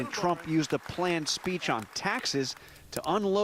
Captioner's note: applause